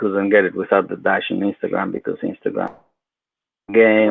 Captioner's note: speaks faintly